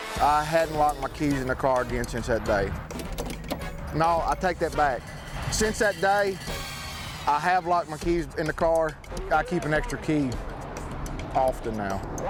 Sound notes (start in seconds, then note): 2.8 door handle clicking